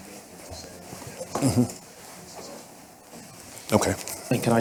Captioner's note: speaking faintly